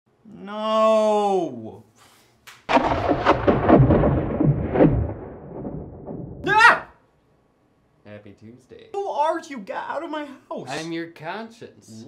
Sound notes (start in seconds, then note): 2.7 thunder cracks; 6.4 screams